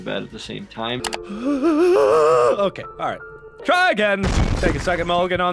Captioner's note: cries